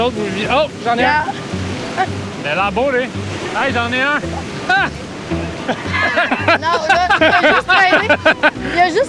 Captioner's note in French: rires